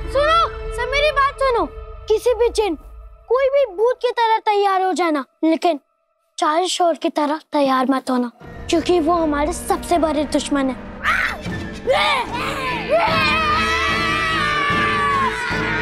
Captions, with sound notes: Listen to me, everyone! You may get dressed up as any character or any ghost. But, don't get dressed up like the forty thieves. Because they are our biggest enemies. [shrieking] [shouting]